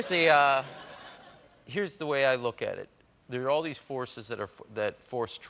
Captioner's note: laughter